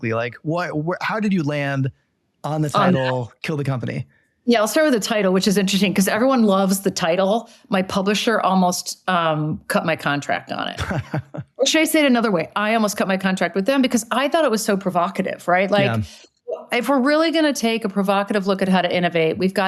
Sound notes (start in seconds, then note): 10.8 panelists laugh